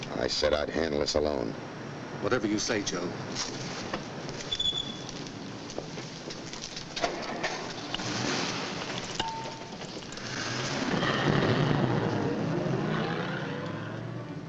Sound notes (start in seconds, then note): 7.5 motor revving; 10.8 car rumbling